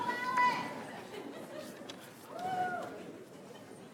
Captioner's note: audience cheering